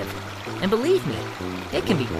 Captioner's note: running water